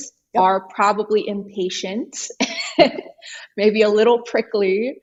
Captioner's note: laughs